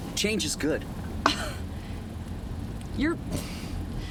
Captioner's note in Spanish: Debra se burla